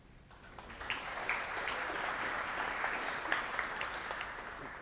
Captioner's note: audience clapping